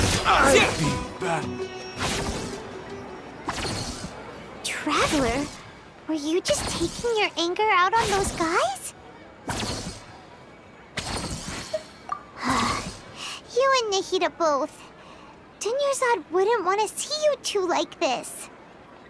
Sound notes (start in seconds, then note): 12.4 sigh